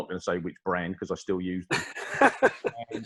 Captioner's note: laughs